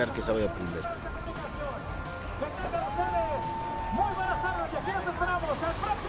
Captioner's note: people cheering